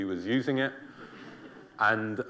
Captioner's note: laughter